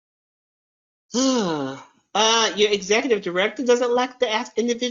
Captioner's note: sighs